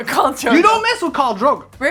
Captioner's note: Sandrine laughs